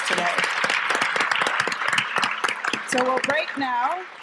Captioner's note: applause